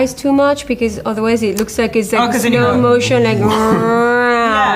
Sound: mouths sound effect

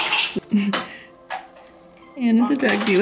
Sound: giggle

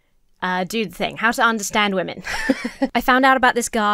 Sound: laughs

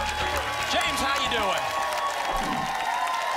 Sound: applause and cheering cont

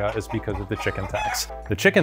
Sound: chicken clucking

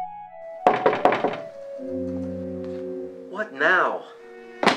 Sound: rapid knocking

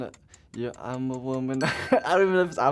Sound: bell rings

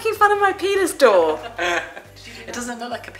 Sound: laughing

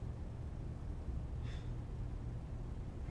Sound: none

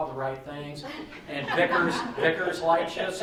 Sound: laughing

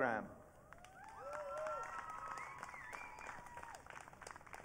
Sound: audience cheering

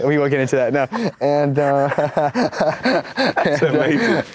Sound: laughs

